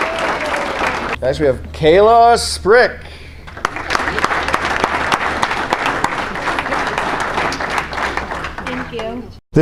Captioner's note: applause; applause